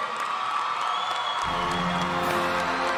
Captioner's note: audience applauding